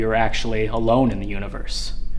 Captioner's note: none